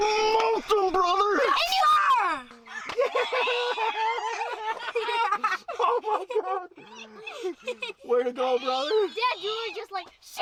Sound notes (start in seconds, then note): 2.6 both cheering